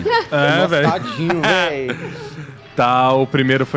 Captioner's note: laugh